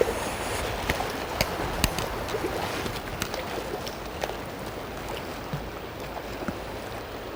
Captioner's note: sound of water running and rain falling